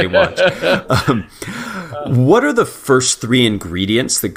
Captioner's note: laugh